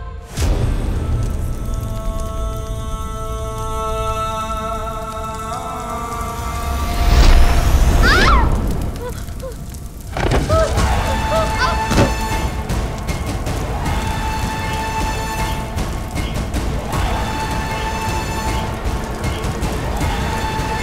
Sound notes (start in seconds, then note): 0.2 tense music continues; 10.1 thud; 11.3 ominous music playing